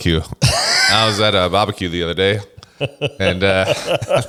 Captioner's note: laughs; laughs